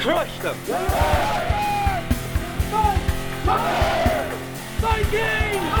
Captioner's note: shouting